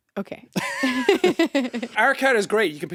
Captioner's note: Jacksepticeye and Courtney chuckling